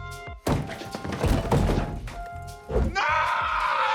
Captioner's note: Calvin thudding